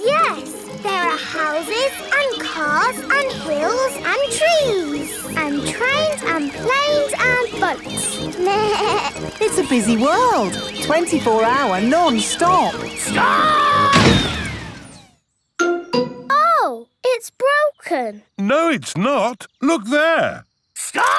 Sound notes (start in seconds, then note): 8.4 bleats; 13.8 thuds